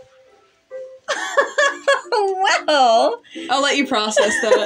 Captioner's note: giddy Laugh; laugh